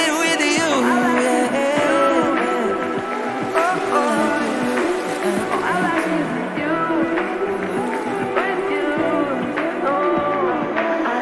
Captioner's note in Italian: Applauso